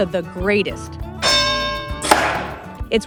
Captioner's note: boxing bell dings, cork pops